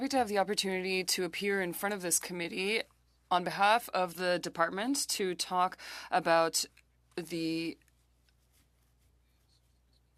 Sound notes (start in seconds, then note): 1.7 speaking French